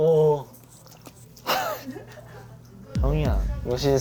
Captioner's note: scoff